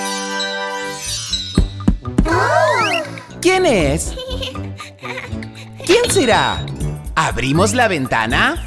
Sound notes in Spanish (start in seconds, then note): 1.6 Golpes